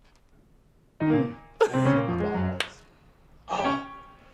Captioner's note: claps; giggles